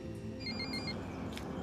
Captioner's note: ringing of cell phone